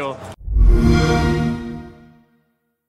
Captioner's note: xbox sound